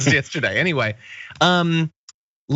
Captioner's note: laugh